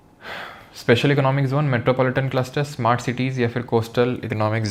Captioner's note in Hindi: गहरी सांस लेने की आवाज़